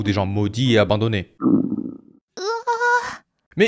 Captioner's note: gurgles